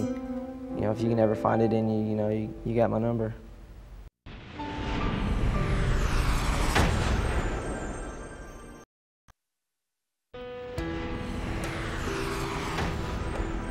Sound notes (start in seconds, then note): 4.2 dramatic sound